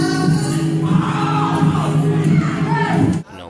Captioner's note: cheering